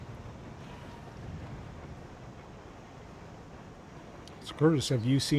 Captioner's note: wind howling